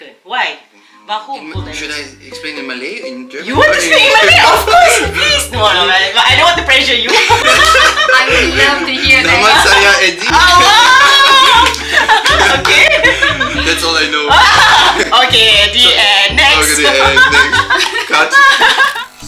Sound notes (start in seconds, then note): 10.6 cheer; 11.1 clap; 12.0 laugh; 14.8 laugh; 16.8 laugh